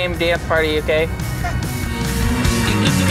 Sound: upbeat music; laughs

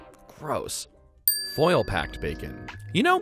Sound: dings

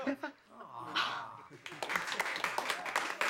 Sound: gasping; class groans

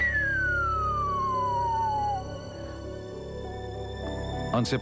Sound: whistles

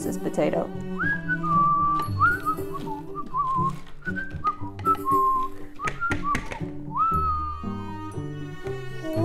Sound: Buzz whistling

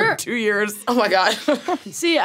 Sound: laughs

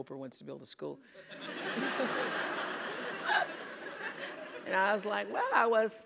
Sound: laugh

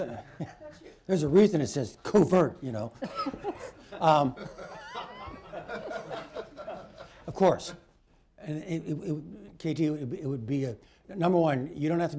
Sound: laughter

